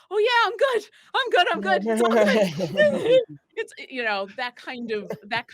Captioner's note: actors laughing